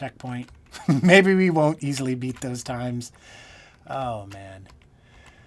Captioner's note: laughing